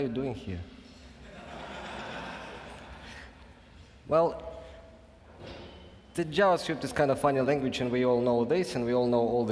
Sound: laughing

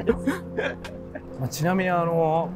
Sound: laughing

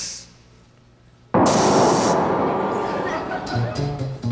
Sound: loud blowing; audience laughing

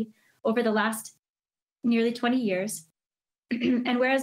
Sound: coughs

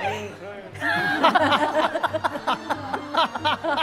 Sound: laughing

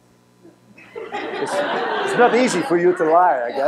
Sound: laughter

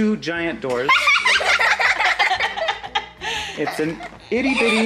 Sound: everyone laughs

